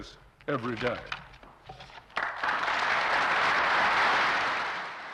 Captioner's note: applause